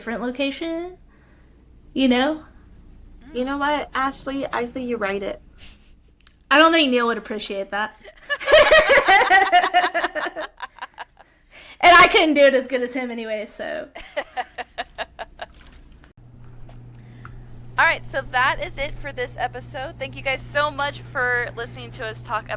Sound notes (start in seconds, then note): 8.0 laughter; 13.9 laughter